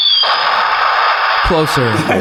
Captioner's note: firework booming; firework whistles